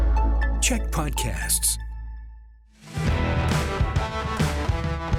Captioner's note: announcer voice